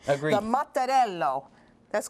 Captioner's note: laughter